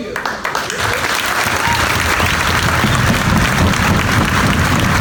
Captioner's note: audience applauds